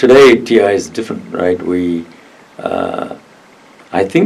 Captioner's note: none